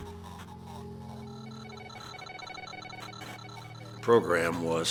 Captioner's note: beeping